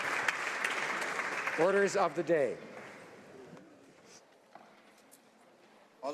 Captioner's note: applause